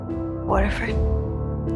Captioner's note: voiceover